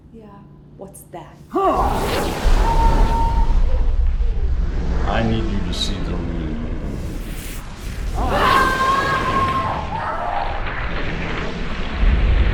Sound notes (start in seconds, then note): 1.7 grunting; 1.7 whooshing; 8.1 screaming